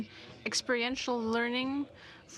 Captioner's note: speaking in french